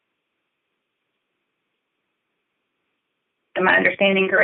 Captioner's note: silence